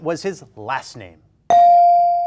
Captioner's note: bell dings